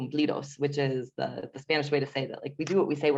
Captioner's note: foreign language